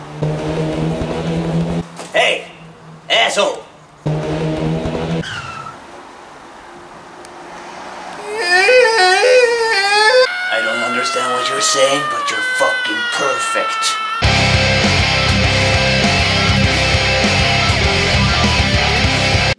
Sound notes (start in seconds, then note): 8.0 the screams of a thousand manbabies; 8.2 scream continues; 13.7 screams still continues